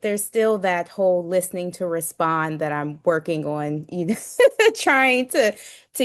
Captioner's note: laughs